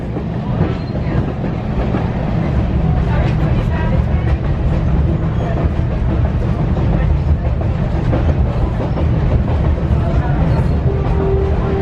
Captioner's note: train wheels clacking